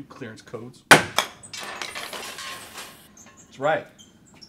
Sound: door creaks open

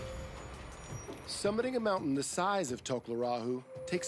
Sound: voiceover

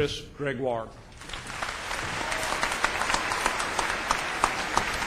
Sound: applause

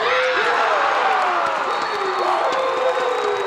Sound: crowd cheers

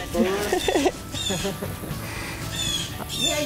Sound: crow cawing

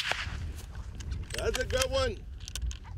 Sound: gunshot

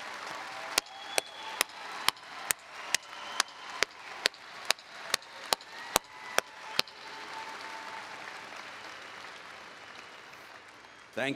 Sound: applause

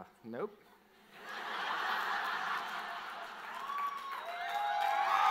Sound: audience laughs

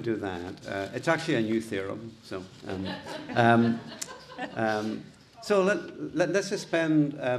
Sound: audience laughing

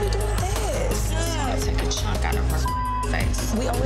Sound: beep

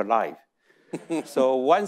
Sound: audience chuckling; chuckles

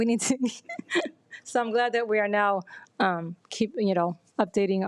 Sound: laughs

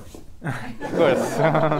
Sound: group laughs

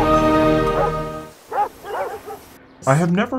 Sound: dogs barking

